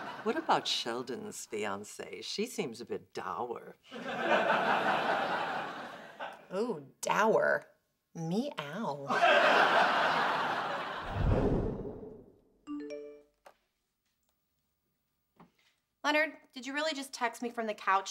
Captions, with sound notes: What about Sheldon's fiancée? She seems a bit dour. Ooh, "dour." Meow. (phone chimes) Leonard, did you really just text me from the couch